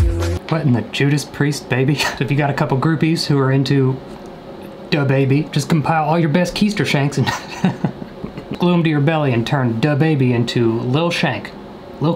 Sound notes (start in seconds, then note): 7.2 laughing